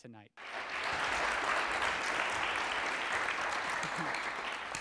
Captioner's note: audience applauds